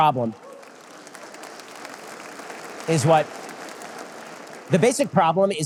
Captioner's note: audience applause